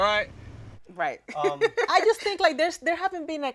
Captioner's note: laughs